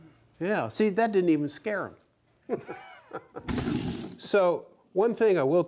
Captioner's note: laughs